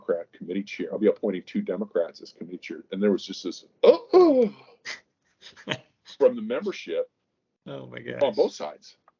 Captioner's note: gasps